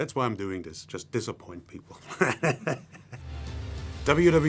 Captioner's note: laughs